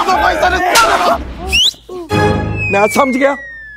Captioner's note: Whistles